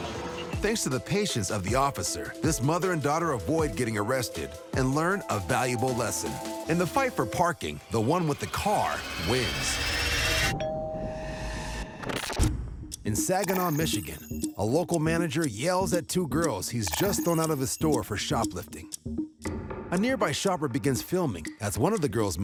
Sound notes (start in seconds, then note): 10.5 doorbell rings